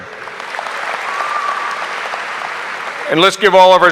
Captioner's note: audience applauding